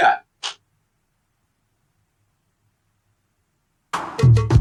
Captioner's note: awkward silence